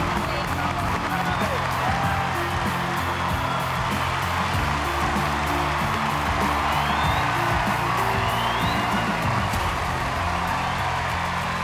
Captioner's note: cheering